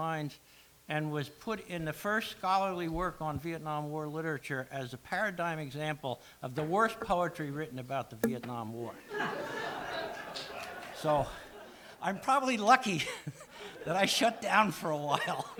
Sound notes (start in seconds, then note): 9.0 laughs